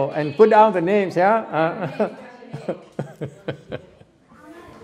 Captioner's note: laugther